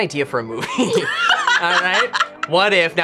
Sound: both laugh

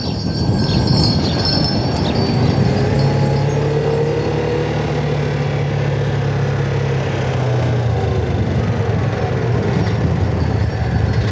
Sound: wind chimes; distant vehicle

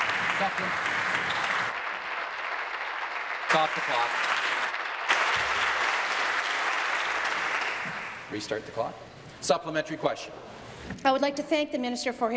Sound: applause

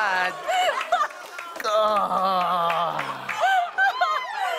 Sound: laughs

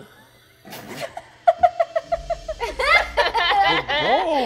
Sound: all laughing

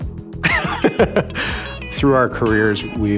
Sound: laughs

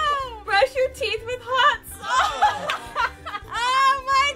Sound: laughter

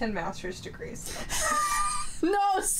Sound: both laughing

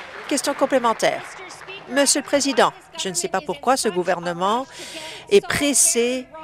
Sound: applause

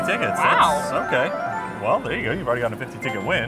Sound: screen chiming

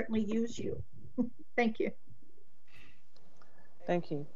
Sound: chuckles

